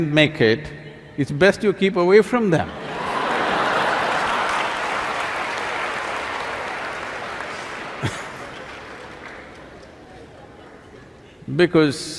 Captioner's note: laughter/Applause